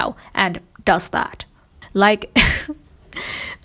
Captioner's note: laughs